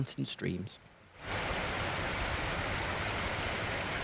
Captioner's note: sound of running water